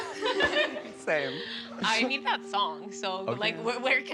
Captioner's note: laughter